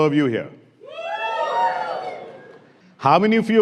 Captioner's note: cheering